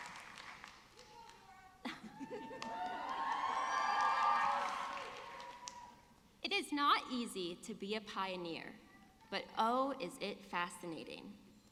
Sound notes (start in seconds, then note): 1.8 laughing; 3.8 audience cheering